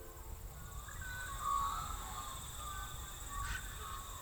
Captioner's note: birds chirp